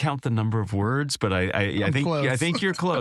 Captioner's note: laugh